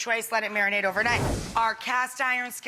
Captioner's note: air whooshing